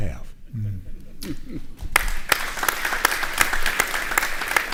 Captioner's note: audience applauding